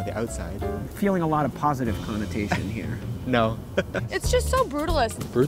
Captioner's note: laughs